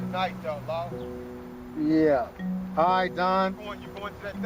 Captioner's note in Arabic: يتحدث بصوت خافت